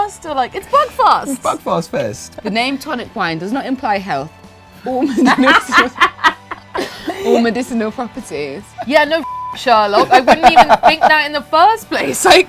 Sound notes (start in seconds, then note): 5.0 laughs; 9.2 beep